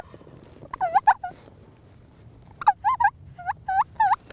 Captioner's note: turkey gobbling; turkey call